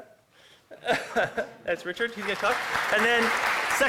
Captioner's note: applause